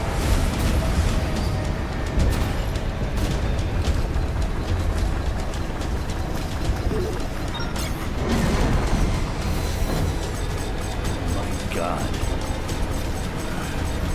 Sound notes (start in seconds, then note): 0.3 lasers blasting; 7.9 dramatic music; 7.9 machine beeping; 13.9 dramatic music